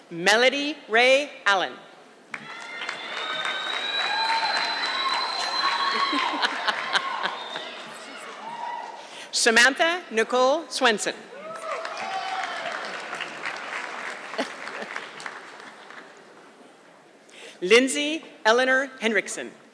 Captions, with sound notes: Melody Ray Allen. (audience clapping) Samantha Nicole Swinson. (audience clapping) Lindsey Elanor Hendrickson.